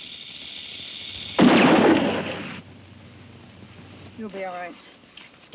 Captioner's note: gun bangs